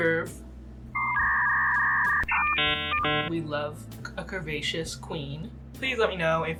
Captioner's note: dial up sounds